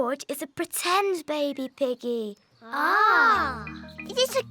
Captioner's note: none